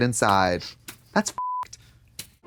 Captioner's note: beep